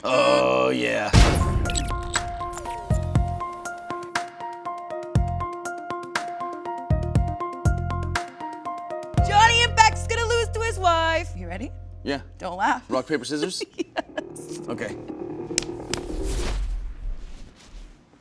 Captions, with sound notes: Oh yeah. (bubbly music) - Johnny Impact's gonna lose to his wife. You ready? - Yeah. - Don't laugh (laughing). - Rock, paper, scissors? - (laughing) Yes. - Okay.